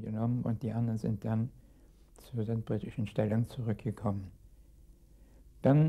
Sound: speaking in a foreign language

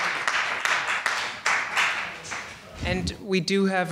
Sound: applause

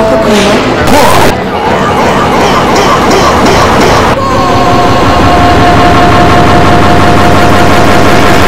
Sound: echoing

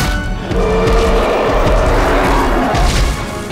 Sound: roars

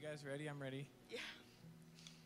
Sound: laughing

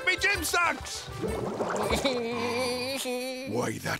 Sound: laughing

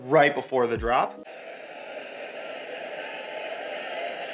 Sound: crowd cheering

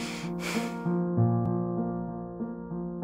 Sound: inhale & Exhale

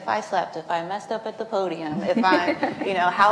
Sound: laughs

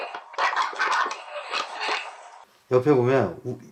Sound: crying

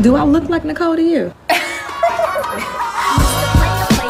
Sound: laughs

